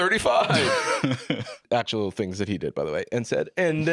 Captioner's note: laughs